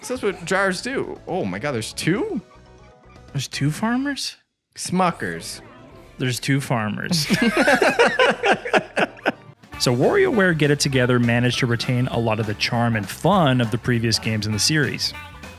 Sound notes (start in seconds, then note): 7.1 both laughing